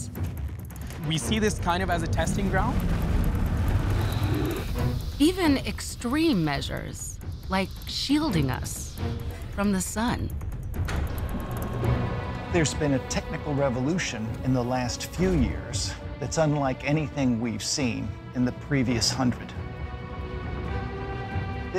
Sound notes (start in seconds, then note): 11.2 machinery whirring